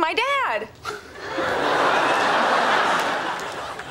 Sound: background laughter

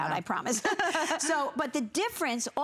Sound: laughter

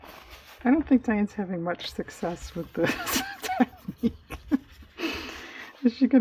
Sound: laughs

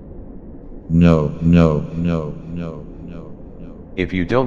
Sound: echo

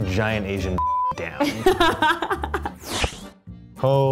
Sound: laughing

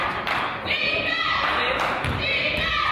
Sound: claps

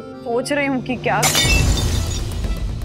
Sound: glass shatters

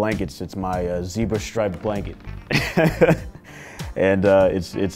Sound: laughs

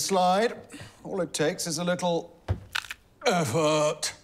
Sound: knees crack

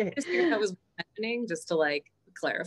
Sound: laughs; microphone garbles her voice

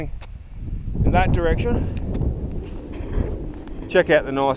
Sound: wind blowing

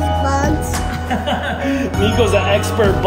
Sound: dad laughing

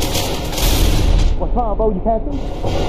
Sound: flashbang

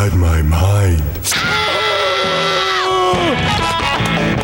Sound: screaming

